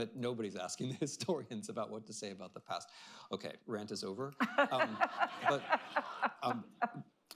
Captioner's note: laughter